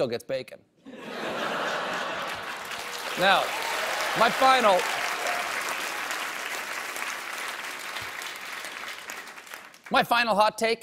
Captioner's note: applause